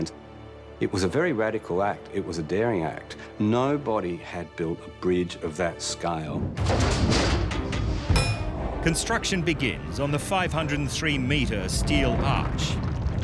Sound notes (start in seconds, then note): 6.6 metal clanking